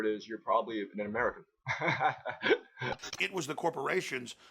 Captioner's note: laughs